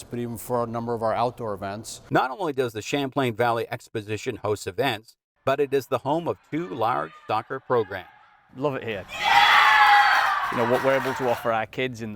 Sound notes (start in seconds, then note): 8.8 crowd cheering